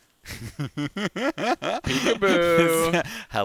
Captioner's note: laughter